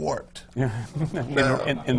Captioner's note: laughs